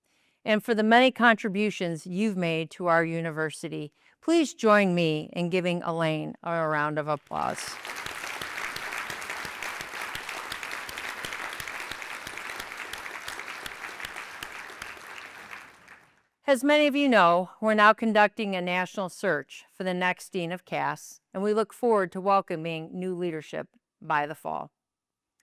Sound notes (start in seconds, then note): 7.2 applause